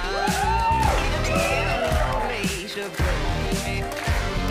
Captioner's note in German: Jubel und Applaus